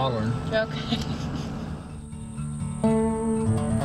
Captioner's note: chuckling; strumming acoustic music